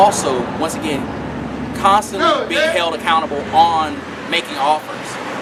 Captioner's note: man hollering